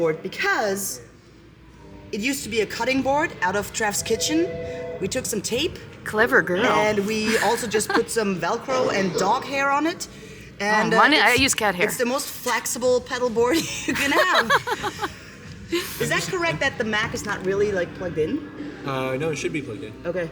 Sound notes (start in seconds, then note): 13.5 laughter